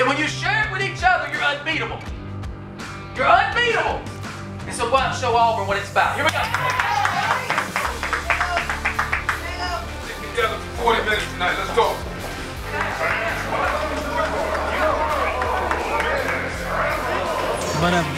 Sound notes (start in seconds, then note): 6.2 clapping